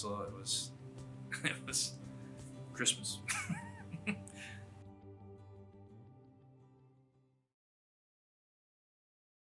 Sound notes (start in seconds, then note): 3.2 laughs; 5.0 gentle light music ends